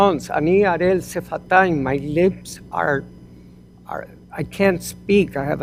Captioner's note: hebrew